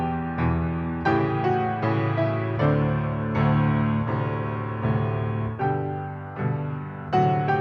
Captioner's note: none